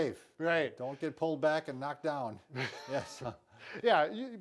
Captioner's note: chuckles